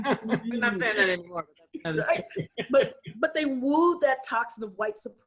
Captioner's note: laughter; laughter